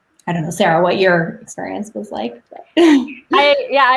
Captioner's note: laughs